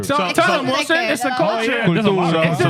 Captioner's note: speaking In Foreign Language